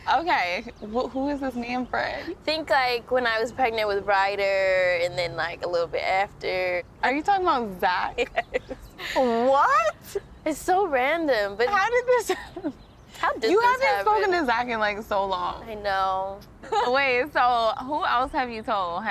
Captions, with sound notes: - Okay, well, who is this man friend? - Think like when I was pregnant with Ryder, and then like a little bit after. - Are you talking about Zach? - (laughs) Yes. - What? - It's so random, but- - How did this? (laughs) - How did this happen? - You haven't spoken to Zach in like so long. - I know. - Wait, so who else have you told?